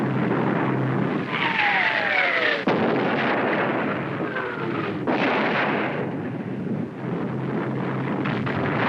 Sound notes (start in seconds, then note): 2.9 explosions